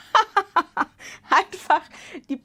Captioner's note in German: Gelächter